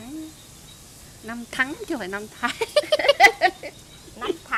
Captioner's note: laugh